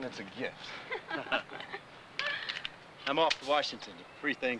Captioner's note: all laughing